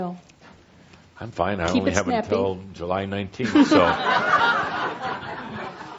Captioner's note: laughter